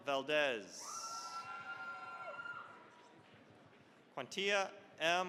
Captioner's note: cheering, applause